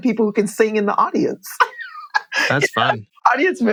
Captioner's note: laughter